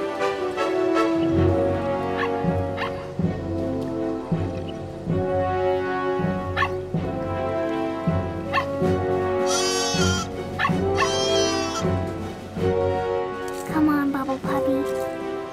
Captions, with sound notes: [barking] [barking] [bleating] Come on, Bubble Puppy.